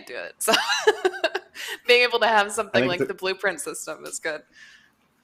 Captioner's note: laughs